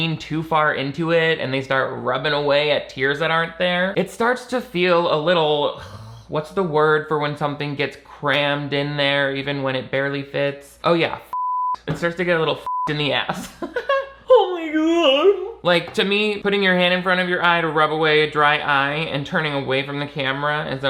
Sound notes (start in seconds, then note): 13.4 giggling